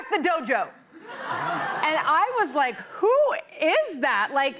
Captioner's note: laughter